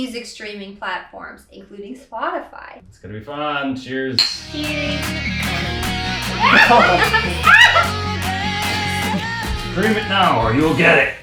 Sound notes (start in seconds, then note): 4.2 rock music begins; 6.4 laughs